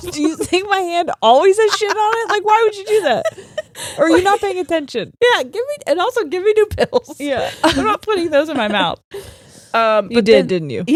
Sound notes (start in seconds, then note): 3.5 laughing